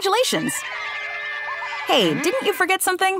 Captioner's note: cheering